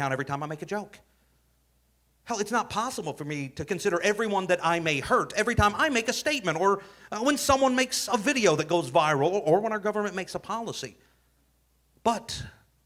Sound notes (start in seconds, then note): none